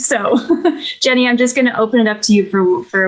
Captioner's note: laughs